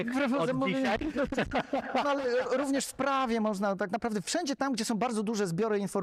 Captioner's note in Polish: śmiech